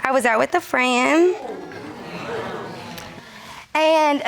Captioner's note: crowd gasps